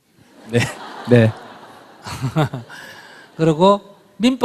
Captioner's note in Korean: 청중 웃음